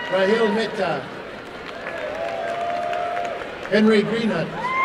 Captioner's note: applause and cheering